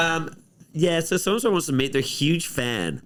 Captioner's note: mockingly